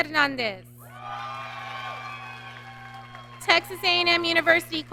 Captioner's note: audience cheering